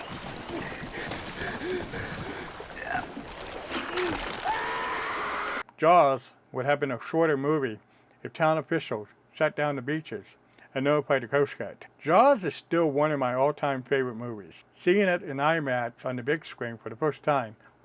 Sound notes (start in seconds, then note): 0.0 heavy breathing, water splashing; 3.7 screaming